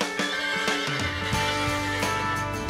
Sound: horse neighs

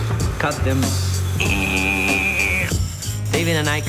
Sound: grinding

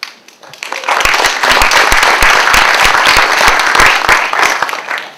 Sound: applause

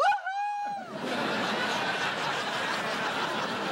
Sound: laughter

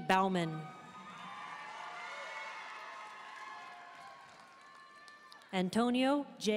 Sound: audience cheering and applauding

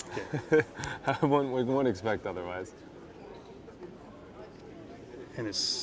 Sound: laughing

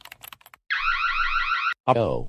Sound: alarm

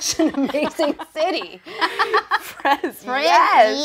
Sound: laughing

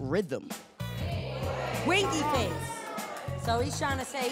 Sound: audience groans

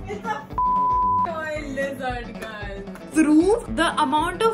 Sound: beep

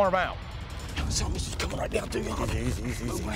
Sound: whispering

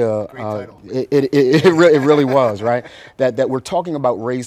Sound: laughs

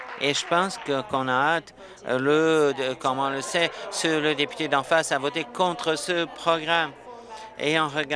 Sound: applause

